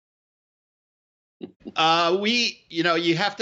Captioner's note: laughing